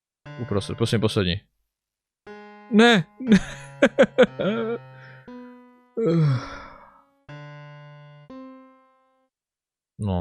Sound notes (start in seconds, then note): 3.2 holds back crying; 6.0 sigh